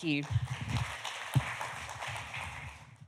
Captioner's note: applause